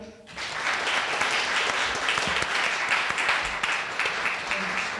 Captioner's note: audience applauding